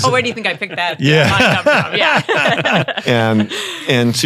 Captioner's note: panel laughing